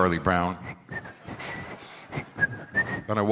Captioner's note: whistles